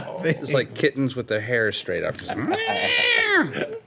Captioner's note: meowing angrily